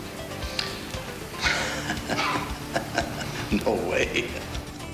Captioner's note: Verne chuckles